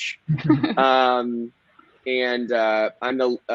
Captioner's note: laughing